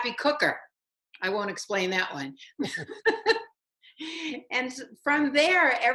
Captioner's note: laughs